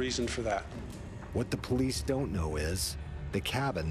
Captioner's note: voiceover